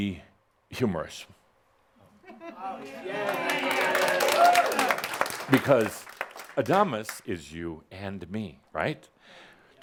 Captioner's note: audience applause